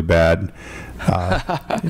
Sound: laughter

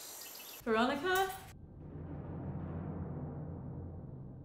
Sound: birds singing

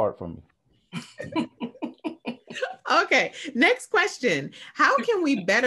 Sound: laughs

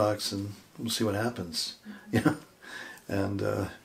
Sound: chuckling

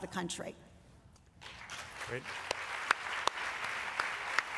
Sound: applause

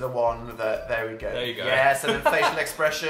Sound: laughs

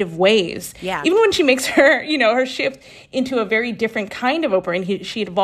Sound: laughter

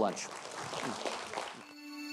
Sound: audience applauds; upbeat music

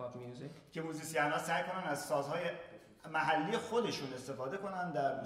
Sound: speaking in farsi

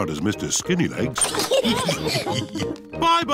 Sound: all laugh

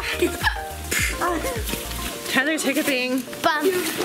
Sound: laughs; hiccups

